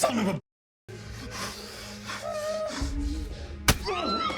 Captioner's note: victims groaning; dramatic music